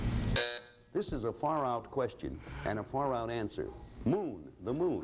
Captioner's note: buzzer